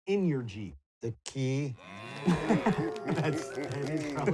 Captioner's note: animals applauding